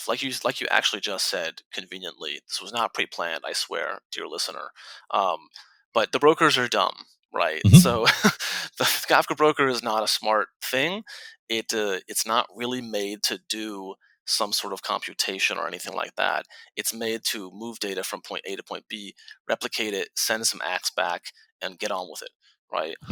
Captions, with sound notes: Like you actually just said conveniently, this was not pre-planned, I swear, dear listener. But the brokers are dumb, right? - Mm-hmm. - So, (laughs) the Kafka broker is not a smart thing. It's not really made to do some sort of computation or anything like that. It's made to move data from point A to point B, replicate it, send some acts back and get on with it, right?